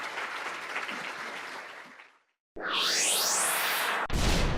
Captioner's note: audience applauds; electronic jingle